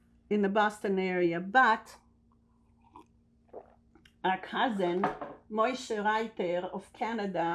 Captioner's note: drinking